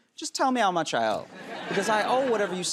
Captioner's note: laughter